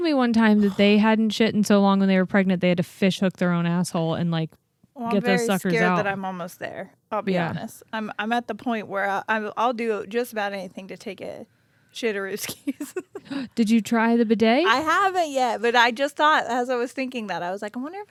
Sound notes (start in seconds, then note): 12.4 laughs